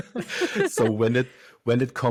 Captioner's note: both laugh